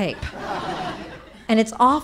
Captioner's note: audience laughing